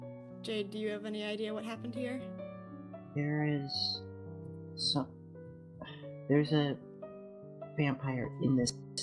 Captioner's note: sigh